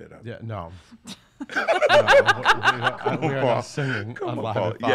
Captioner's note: laughs